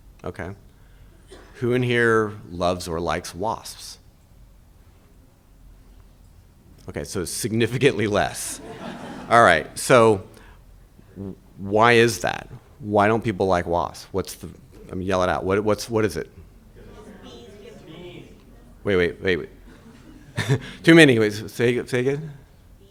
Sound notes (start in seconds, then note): 8.4 audience laughing; 17.8 audience speaking indistinctly